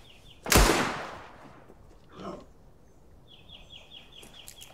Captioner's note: gunshots fire